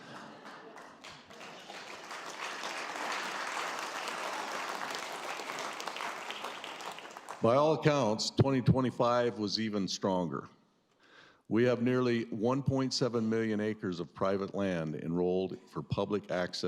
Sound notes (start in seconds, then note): 2.3 laughter; 3.4 applause